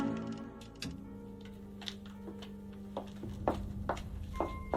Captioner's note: light switch clicks; tense, eerie music continues